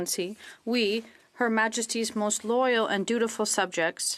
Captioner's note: speaking French